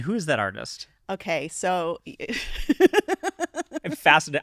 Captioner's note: laughs